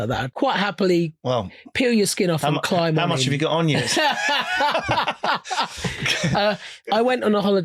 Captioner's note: laughing